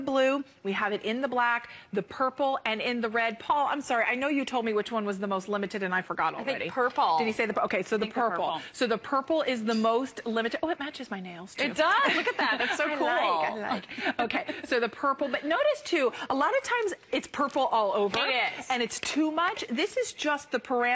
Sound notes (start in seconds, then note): 11.8 laughter